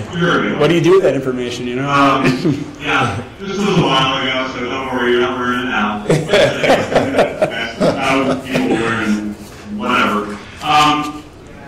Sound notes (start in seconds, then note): 5.8 laughing